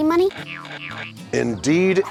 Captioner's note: springs bouncing